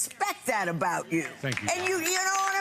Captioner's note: audience applauds